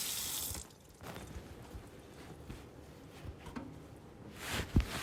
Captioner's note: cloth rustling